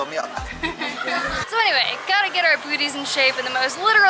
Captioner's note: laughter